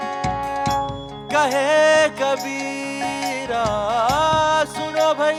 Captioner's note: none